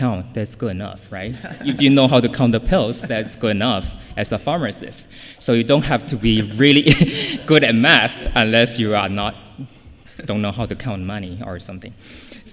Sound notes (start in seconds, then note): 1.3 laughter; 6.8 laughs